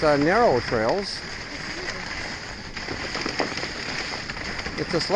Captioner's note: sledding noise